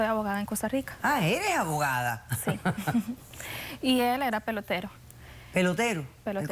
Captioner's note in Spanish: Risas